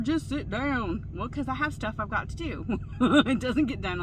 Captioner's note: laughs loudly